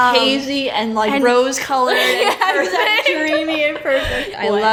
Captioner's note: laughs